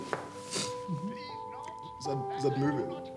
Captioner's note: sniffs